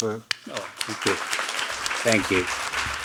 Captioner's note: applauding; audience applauding